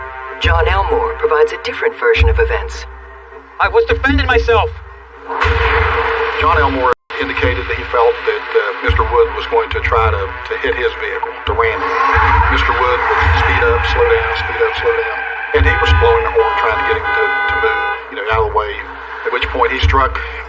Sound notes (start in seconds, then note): 12.6 tires rereecng